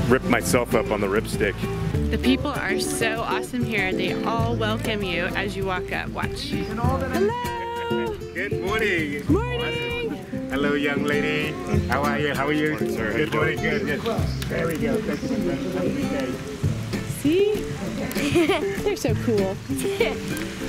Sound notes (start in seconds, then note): 18.1 laughs